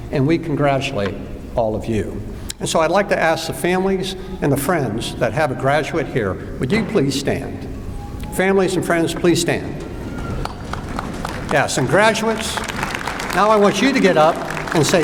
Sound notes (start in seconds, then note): 10.4 applause